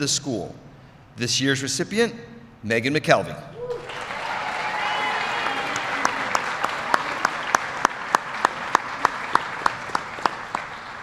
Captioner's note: applause